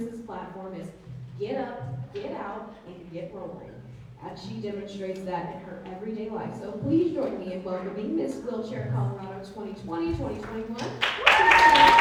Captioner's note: applause